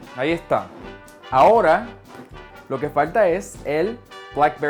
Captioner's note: speaking foreign language